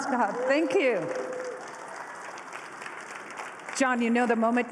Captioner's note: applause